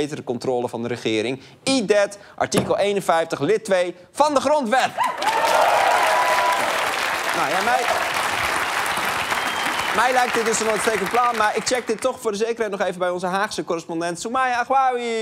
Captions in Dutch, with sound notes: grotere fracties en betere controle van de regering. Eat that, artikel 51 lid 2 van de grondwet! (applaus) Mij lijkt het een uitstekend plan... maar ik check het toch nog even bij onze Haagse correspondent, Soumaya Ahouaoui.